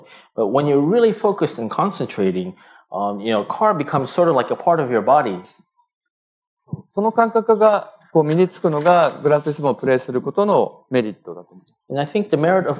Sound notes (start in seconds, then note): 9.2 speaking japanese